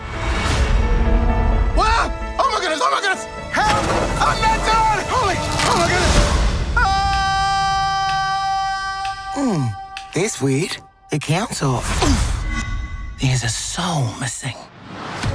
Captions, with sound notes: Whahh! Oh my goodness, oh my goodness! Help! I'm not done! Oh my, oh my goodness! (yelling) - Mmm, that's weird, the count's off. There's a soul missing.